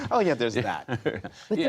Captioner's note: laughter